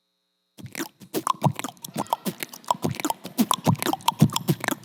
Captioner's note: beatboxes